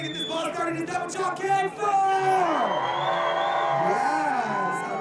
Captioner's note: audience cheering